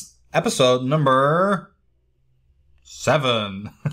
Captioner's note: laughing